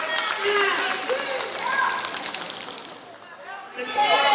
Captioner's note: applause